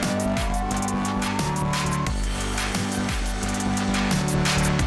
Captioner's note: applause